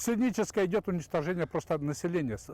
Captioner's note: speaking Russian